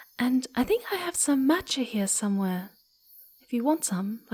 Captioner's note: none